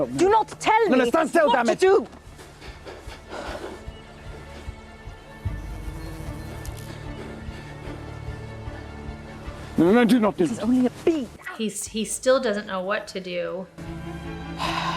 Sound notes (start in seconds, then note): 2.5 Anthony breathes heavily; 5.4 bee buzzing; 6.0 tensed upbeat music; 14.6 woman sighs